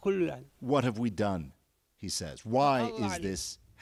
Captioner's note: speaking alternate language